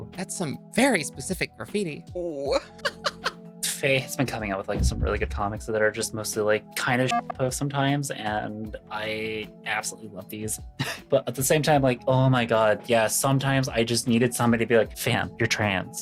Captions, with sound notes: That's some very specific graffiti. Oooo (laughs) Faye has been coming up with some really good comics that are just mostly like kinda shitpost sometimes and I absolutely love these. But at the same time, like, oh my God, yeah, sometimes I just needed somebody to be like, fam, you're trans.